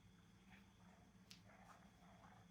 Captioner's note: whispering